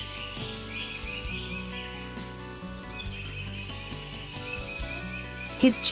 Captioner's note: birds sounds and chirps, low volume music